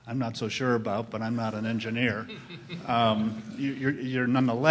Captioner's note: laughter